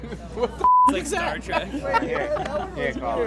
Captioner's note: beep